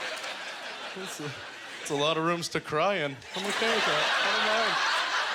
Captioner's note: audience laughter